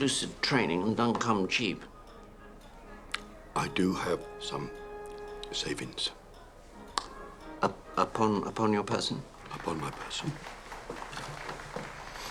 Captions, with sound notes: UP--UPON-UPON YOUR PERSON? UPON MY PERSON. ( rustling of papers ) THANK YOU.